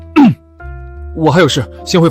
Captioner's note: cough cough